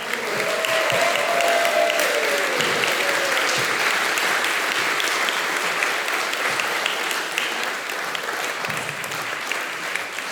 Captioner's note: applause